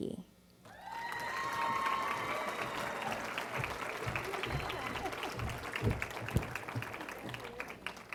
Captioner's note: cheering & Applause